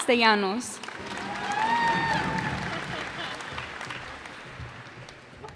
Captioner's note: cheers and applause